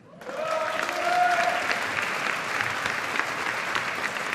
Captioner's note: audience applauding